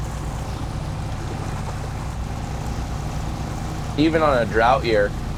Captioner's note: boat engine revving; water sloshing